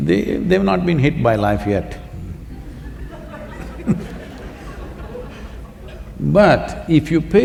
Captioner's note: laughter